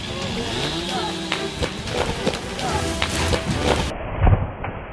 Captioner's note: chainsaw revving